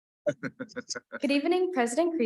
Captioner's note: attendees chuckling; board member chuckling